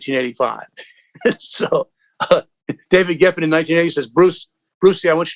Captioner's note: laughter